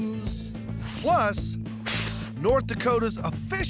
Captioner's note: both spitting